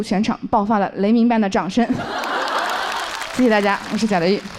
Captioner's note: thunderous applause erupts from the audience